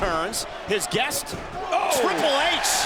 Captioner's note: King exclaims